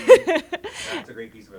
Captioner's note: laughs